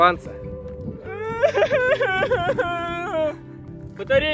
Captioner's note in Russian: плач